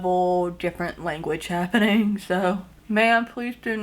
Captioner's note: chuckles